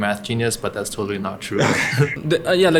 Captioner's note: laughs